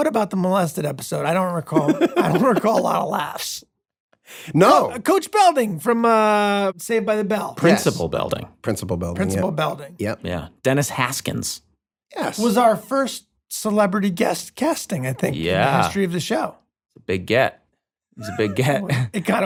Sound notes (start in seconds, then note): 1.6 laughs